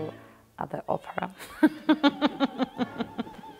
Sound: laughs

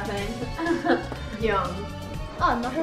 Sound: laughs

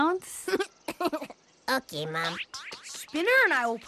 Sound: giggle

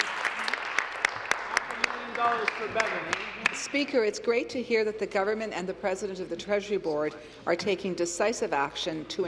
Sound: applause

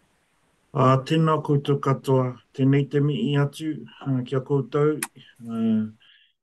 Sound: speaks in te reo Māori

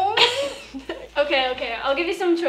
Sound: laughing

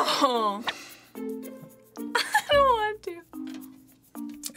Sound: giggles

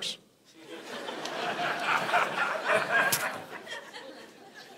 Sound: congregation laughing

